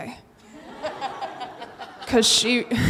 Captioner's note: audience laughs